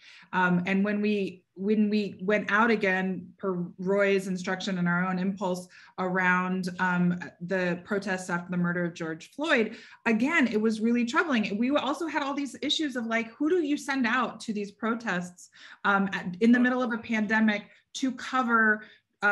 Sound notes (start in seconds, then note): none